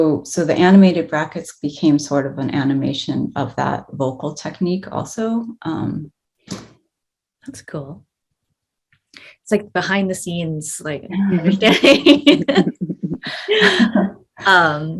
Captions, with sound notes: So the animated brackets became sort of an animation of that vocal technique also. - That's cool. It's like behind the scenes, like (both laughing).